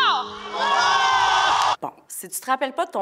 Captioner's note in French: acclamations